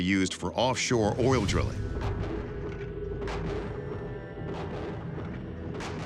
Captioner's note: slow thumping